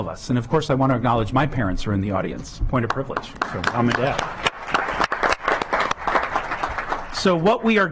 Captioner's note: clapping